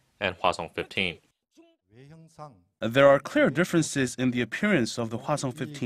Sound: Korean

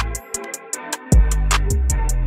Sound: none

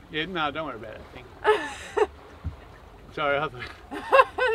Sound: laughing; laughing

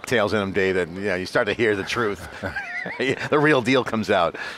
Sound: he laughs

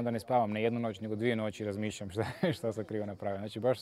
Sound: laughs

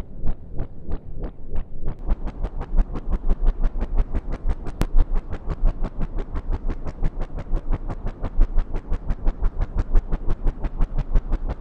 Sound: sound of fan blades turning

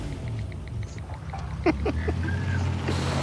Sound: snickers

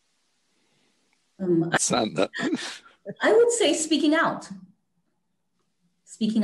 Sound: laugh

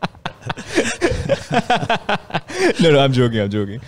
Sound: laughs

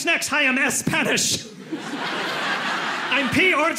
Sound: audience laughing

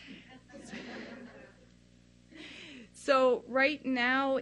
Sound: laughing

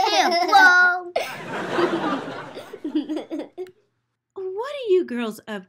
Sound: audience laughs

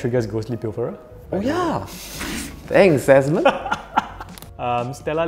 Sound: laughs

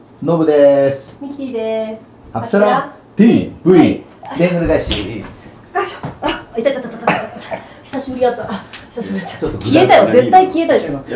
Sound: laughs

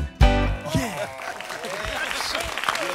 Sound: applause

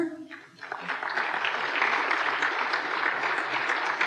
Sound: applause

